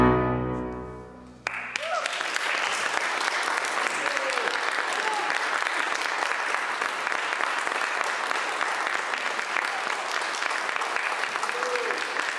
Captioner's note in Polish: Aplauz